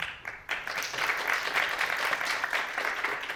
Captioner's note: applause